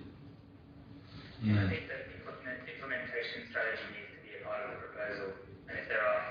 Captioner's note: audio distorts